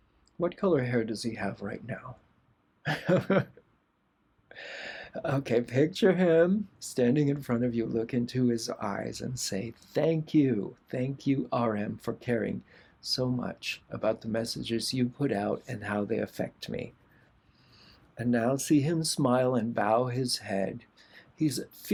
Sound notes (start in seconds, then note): 2.8 laughter